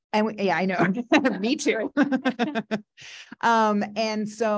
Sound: audience laughing

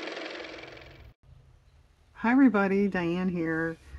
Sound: car motor

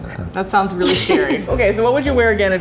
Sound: laughs

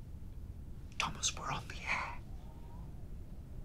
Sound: whispers

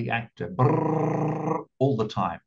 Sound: vibrating tongue

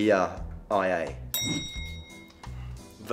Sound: bell dings

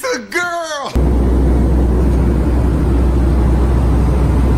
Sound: airplane roaring

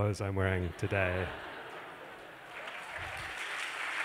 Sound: laughter; applause

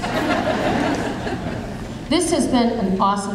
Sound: audience laughing

